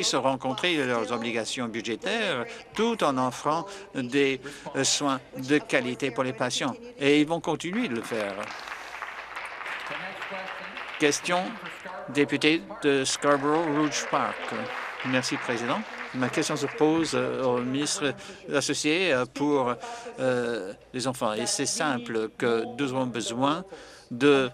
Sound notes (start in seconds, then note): 12.8 applause